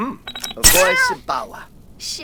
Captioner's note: ouch!